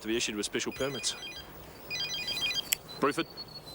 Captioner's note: phone ringing